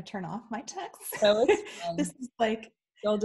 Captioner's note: laughs